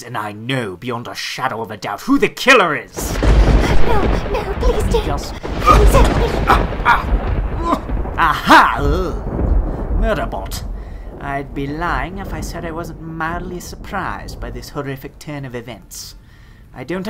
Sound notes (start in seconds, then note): 6.9 struggling